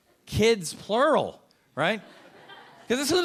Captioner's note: a few audience members laughing